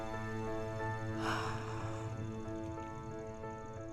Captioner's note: sighs